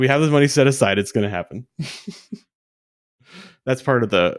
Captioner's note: laughs